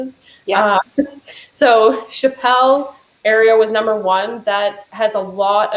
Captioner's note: chuckles